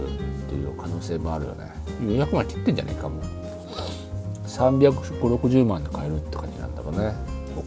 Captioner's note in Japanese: 鼻息